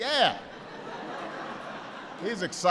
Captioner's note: laughter